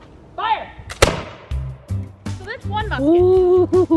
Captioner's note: musket discharges